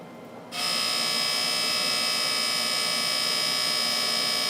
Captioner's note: laser buzzes